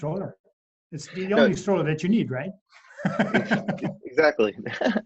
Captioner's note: laughing